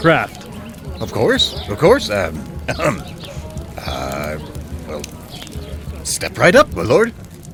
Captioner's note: grunt